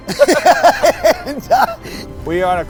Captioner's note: laughter